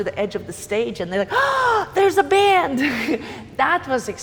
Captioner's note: gasps